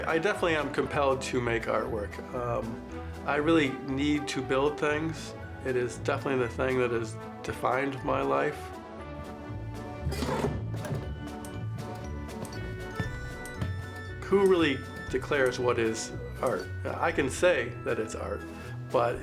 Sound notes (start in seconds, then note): 10.4 button clicks